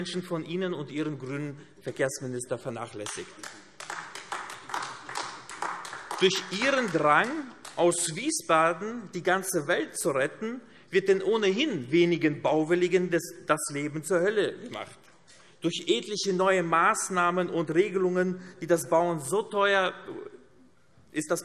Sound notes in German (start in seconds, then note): 2.9 Beifall AfD